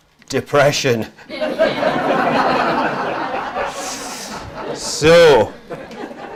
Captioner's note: audience laughs